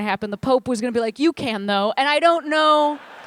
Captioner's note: laughter